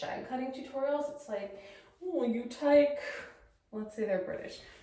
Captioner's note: British accent